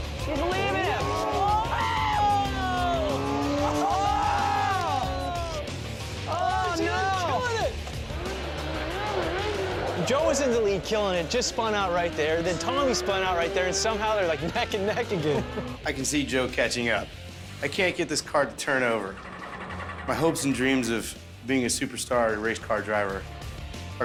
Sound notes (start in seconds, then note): 0.3 exclamations and laughter; 14.4 laughter; 18.5 ignition stalling